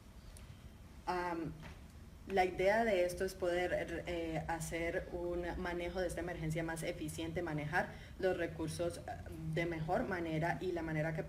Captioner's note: speaking in Spanish